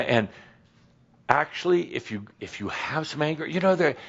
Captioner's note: none